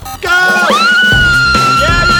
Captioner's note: cheering; yelling